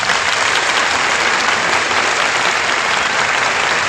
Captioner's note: applause